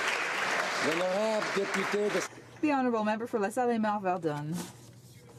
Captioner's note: applause